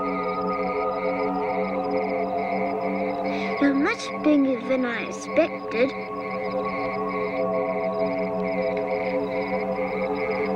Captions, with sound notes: (tense music) You're much bigger than I expected. (insects trilling)